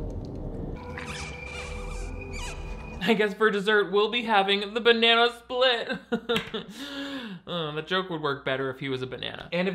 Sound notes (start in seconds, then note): 0.8 blood squeaking; 5.9 chuckles